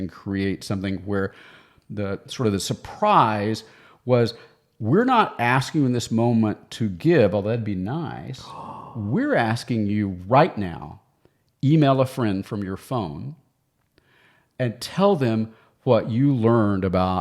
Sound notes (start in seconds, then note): none